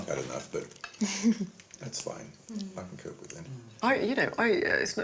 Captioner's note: laughing